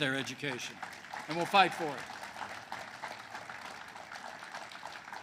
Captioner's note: applause